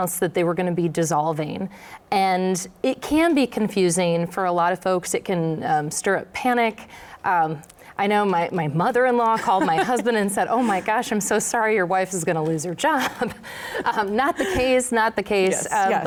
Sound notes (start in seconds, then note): 9.3 laughs